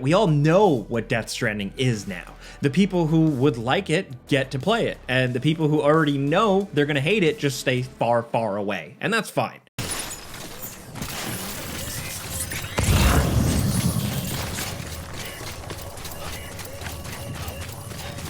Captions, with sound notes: we all know what Death Stranding is now. The people who would like it get to play it and the people who already know they're gonna hate it, just stay far, far away, and that's fine. (game beeping) (feet thudding)